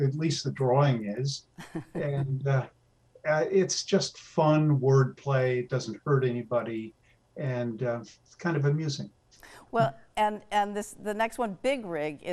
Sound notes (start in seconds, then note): 1.7 laughs